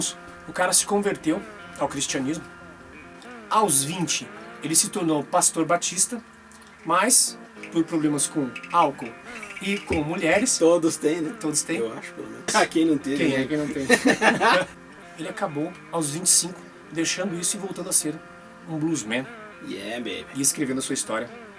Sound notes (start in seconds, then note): 11.0 laughs